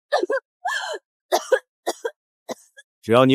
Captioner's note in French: Tousse